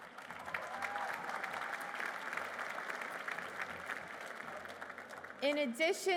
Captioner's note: applause